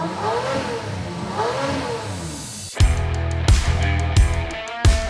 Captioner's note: engines revving; rock music